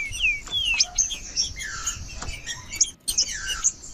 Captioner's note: trinca ferro cantando